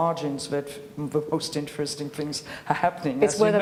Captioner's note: laughs